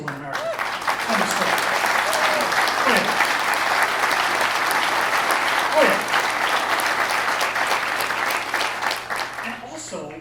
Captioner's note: applause